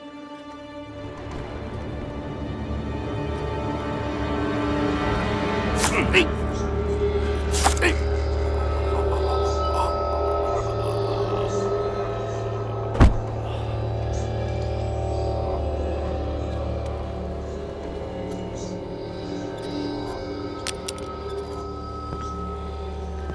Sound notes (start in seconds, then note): 0.3 suspenseful music; 7.2 grunting; 12.9 thuds